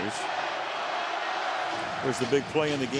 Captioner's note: crowd chanting